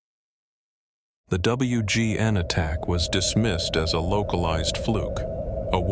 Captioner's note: wind noise